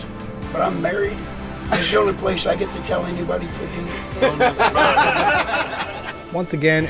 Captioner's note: laughter; laughter